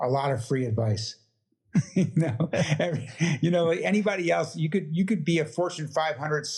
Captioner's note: laugh